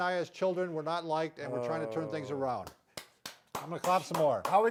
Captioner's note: claps